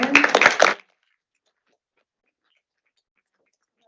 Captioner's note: audience applaud